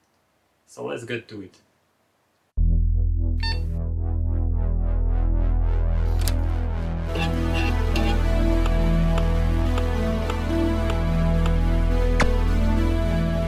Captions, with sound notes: So let's get to it! [Mysterious music] [Sounds of the floppy drive reading]